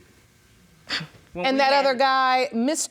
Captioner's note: scoffs